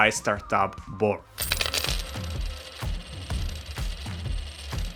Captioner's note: clattering